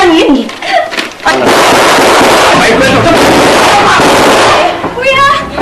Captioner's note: gunshots firing